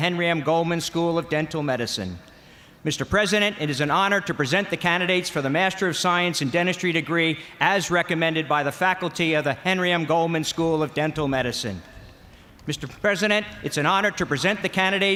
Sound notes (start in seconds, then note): none